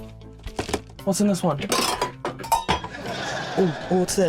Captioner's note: clattering